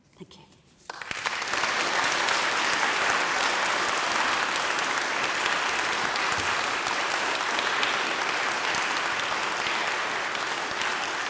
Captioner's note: applause